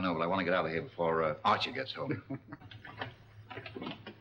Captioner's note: laughing